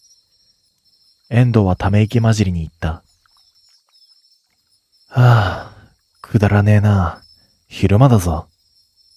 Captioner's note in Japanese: ため息